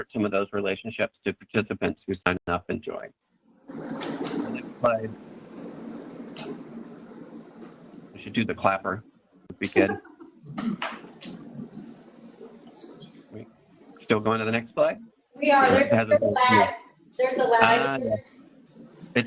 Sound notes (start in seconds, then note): 10.0 laughter; 10.8 clapping